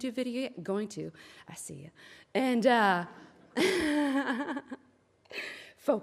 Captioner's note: laughs; audience laughs